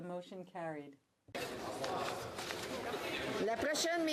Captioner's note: speaking French